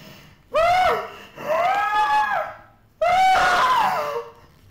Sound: woman screams

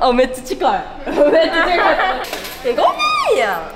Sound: laugh

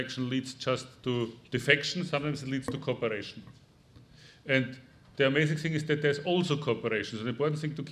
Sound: none

